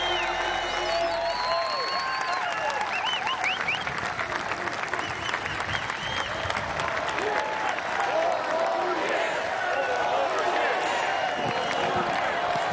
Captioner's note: cheers and applause